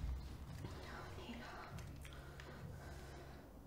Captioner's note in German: leise flüsternd